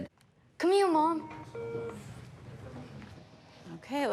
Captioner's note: skype beeps